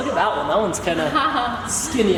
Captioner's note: laughs